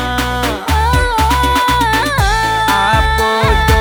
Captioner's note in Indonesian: menangis